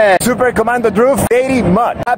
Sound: non-english speech

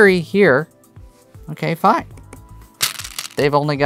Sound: taps board; stones rattling

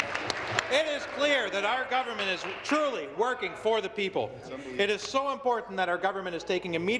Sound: applause

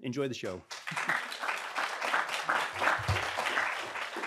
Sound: audience clapping

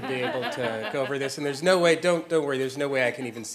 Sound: laugh

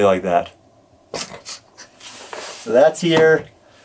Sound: chuckles

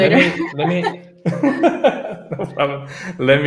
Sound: laugh

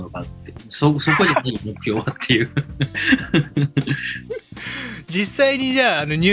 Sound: laughs

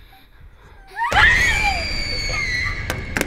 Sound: shallow breathing; shrieking

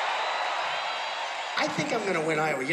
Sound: cheers and applause

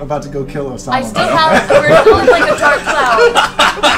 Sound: all laugh

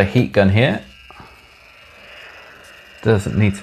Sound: heat gun whirring

